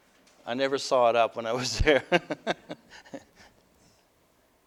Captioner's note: laughter